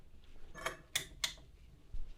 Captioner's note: lamp clicks on